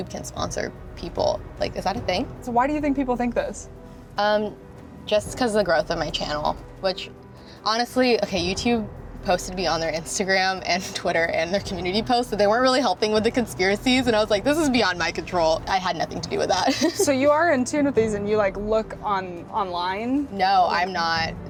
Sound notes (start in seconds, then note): 16.6 giggles